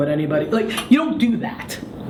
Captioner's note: laughs